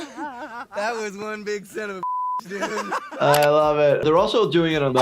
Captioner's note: laughing; beep; laughing